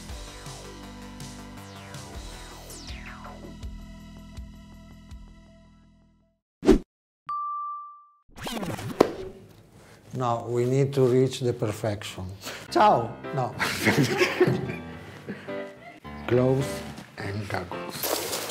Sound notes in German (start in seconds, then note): 12.7 Stimme versagt; 13.6 Gelächter